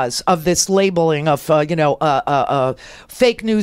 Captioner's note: stammering